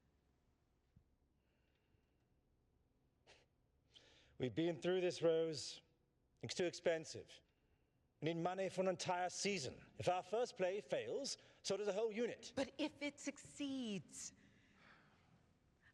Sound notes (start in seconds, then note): 3.2 scoffs